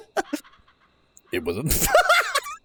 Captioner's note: laughs